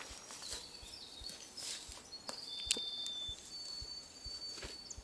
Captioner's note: bird song